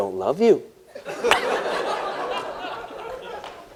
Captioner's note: laughter